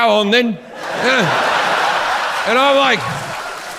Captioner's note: audience laughs